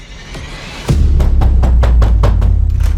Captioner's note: knocking